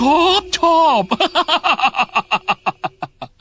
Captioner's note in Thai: หัวเราะ